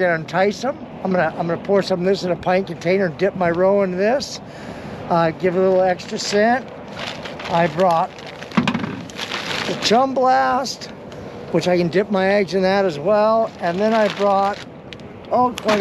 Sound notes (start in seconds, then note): 6.8 plastic crackling; 8.6 thump